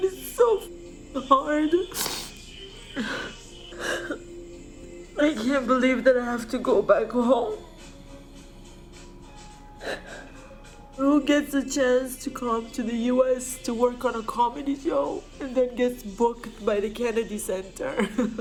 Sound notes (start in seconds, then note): 1.1 sobbing